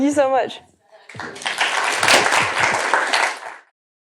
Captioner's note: applause